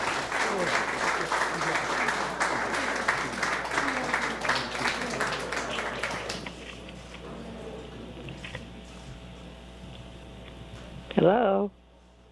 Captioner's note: applause